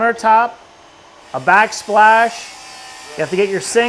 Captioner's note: tool whirring